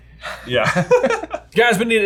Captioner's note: laughs